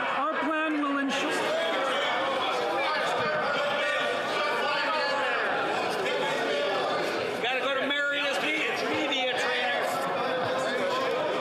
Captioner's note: yelling